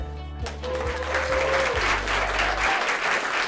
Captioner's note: applause